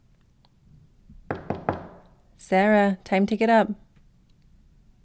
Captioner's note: knocking